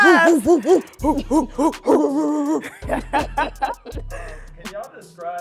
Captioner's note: both laughing